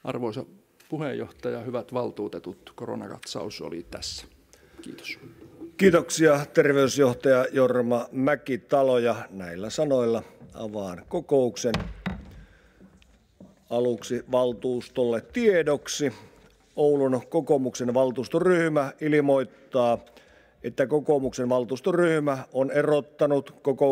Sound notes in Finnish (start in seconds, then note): 9.7 kopauttaa nuijaa